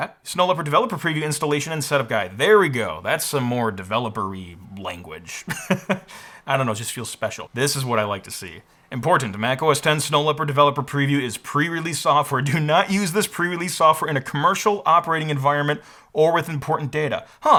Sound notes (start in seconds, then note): 5.4 chuckles